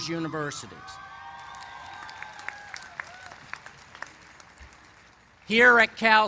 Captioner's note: cheers and applause